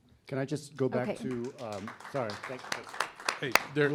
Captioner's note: audience clapping